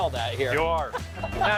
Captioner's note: laughing